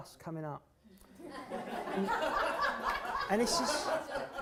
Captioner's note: laughter